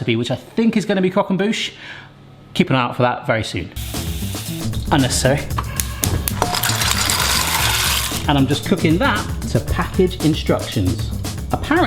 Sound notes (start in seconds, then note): 4.0 water splashing; 5.9 upbeat music